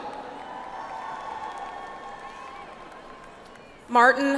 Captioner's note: audience applauds